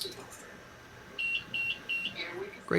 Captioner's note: device beeps